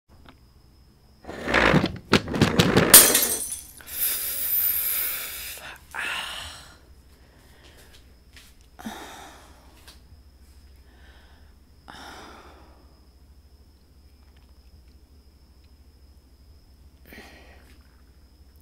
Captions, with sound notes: (furniture scraping, objects falling, glass breaking) ffffffffff (soft pain noises continue)